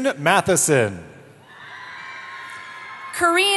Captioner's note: cheering